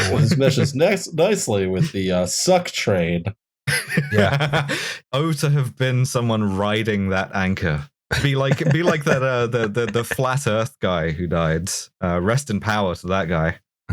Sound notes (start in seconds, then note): 3.6 laughter